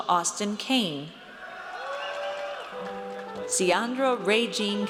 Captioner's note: audience cheers